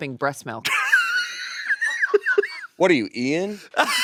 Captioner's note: laughing